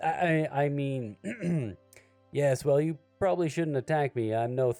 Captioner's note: clears throat